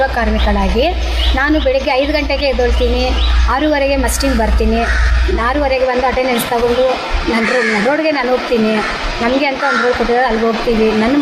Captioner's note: speaks in Kannada – not transcribed